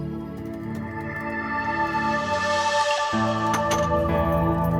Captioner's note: keyboard clicking